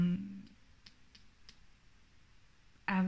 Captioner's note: nails tapping on book